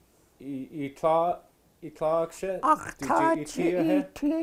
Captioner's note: speaking Tlingit